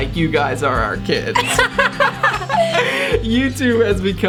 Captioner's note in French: Rires bruyants